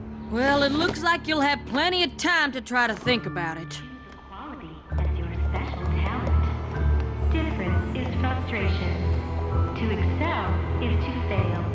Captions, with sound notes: Well, it looks like you'll have plenty of time to try to think about it. [announcements continue] Difference is frustration... To excel is to fail...